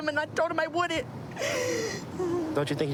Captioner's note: sobbing